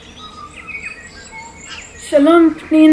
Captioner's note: birds chirping